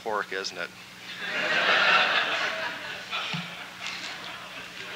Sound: laughter

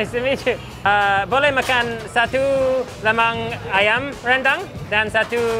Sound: speaks in foreign language

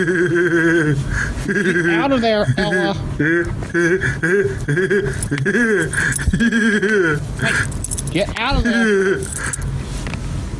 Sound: laughing

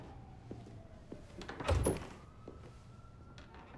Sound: door opens and shuts

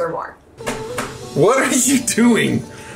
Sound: whipping napkin

